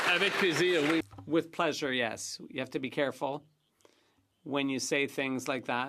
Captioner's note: some Applause